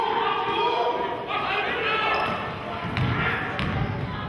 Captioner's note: yelling